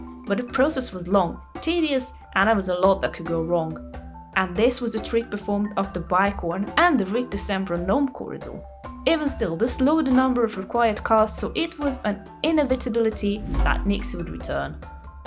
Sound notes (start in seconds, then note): none